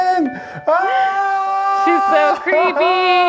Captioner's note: shouts